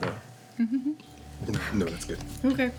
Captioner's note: giggling